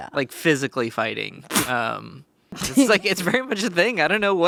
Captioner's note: laughs